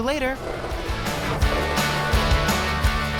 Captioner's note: skateboard grinding